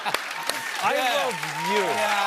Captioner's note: cheers and applause